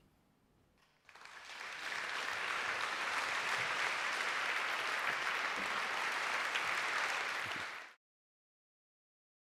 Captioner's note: applause